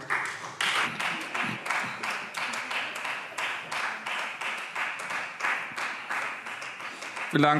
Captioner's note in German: Beifall Freie Demokraten